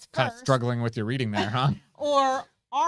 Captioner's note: both chuckle